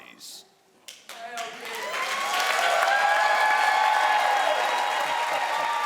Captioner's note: crowd cheers and applauds